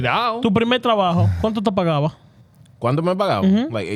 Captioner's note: speaking In Foreign Language